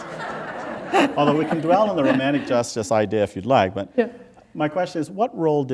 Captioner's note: laughter